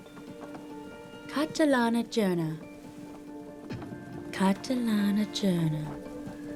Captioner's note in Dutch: Catherine spreekt Russisch